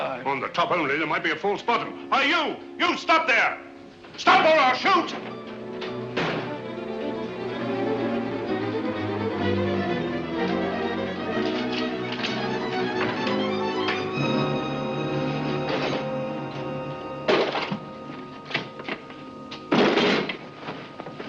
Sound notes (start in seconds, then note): 6.1 chest bangs down; 7.6 suspenseful music; 17.1 tray bangs down